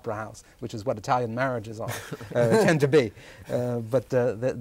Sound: laughter

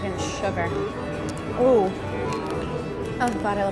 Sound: exclaims

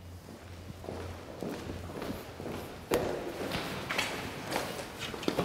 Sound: footfalls thud loudly

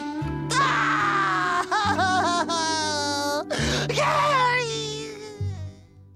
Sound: crying

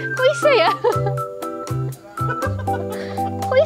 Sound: chuckled

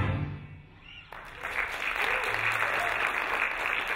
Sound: applauding

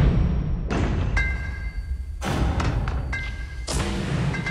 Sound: low thudding; bomb dropping

